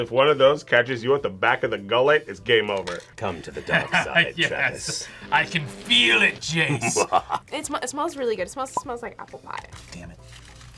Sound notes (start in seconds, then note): 6.6 laughs maniacally; 6.6 laughs